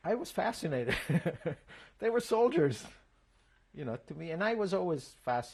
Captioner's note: laughs